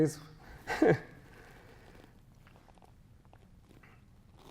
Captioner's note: chuckles